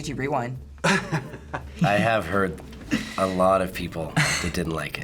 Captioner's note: chuckles